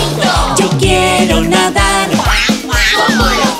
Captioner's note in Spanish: Sonido de pato